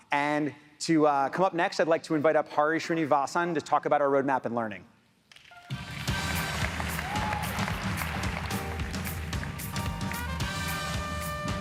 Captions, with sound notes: And to up come up next, I'd like to invite up Hari Srinivason to talk about our roadmap in learning. (music beat) (audience applauds)